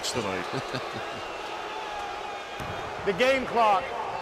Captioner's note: chuckles